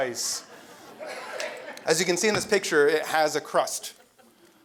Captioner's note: laugh